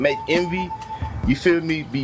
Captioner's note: birds Chirping